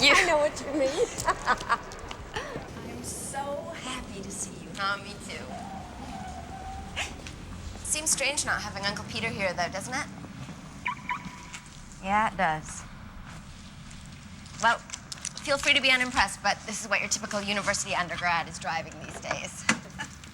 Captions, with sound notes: I know what you mean. (LAUGHS) I am so happy to see you. Oh, me, too. It seems strange not having Uncle Peter here though, doesn't it? (CAR ALARM BEEPS) Yeah, it does. Well, feel free to be unimpressed, but this is what your typical university undergrad is driving these days.